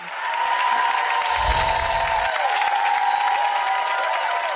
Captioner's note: applause